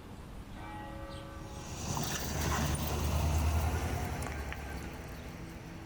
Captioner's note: car engine humming; somber music